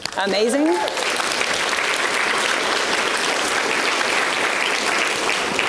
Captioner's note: audience applauds